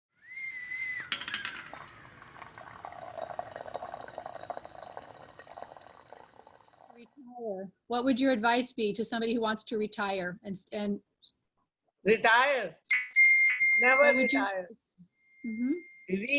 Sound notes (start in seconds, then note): 7.0 sound of tea kettle whistling